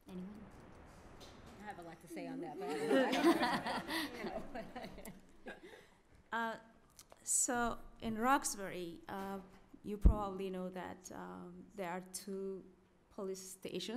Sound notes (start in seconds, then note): 2.6 laughter